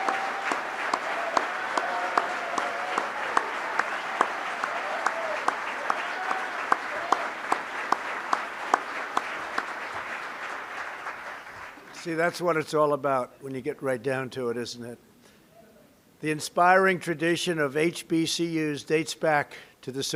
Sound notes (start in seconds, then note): 6.4 applause